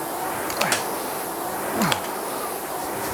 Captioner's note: grunting